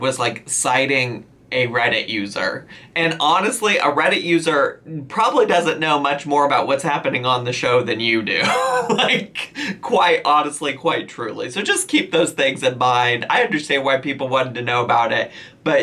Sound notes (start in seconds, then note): 8.4 laughs